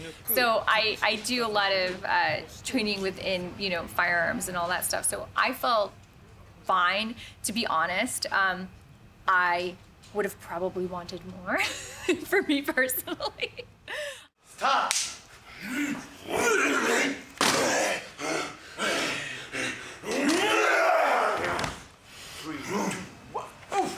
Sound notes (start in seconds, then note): 13.6 laughing; 14.8 film slate claps; 15.5 grunting; 19.4 shouts, grunts; 22.3 grunting